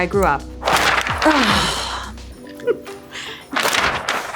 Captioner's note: paper crackling